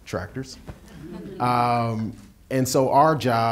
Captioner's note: audience laughing